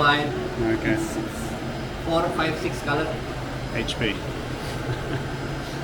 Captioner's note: laughing